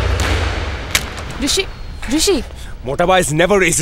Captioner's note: Door opens